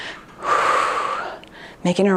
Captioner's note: exhales deeply